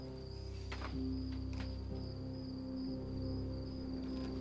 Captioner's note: crickets chirping